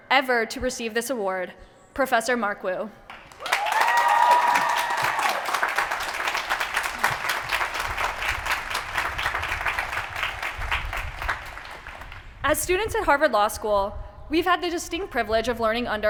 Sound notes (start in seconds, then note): 3.1 applause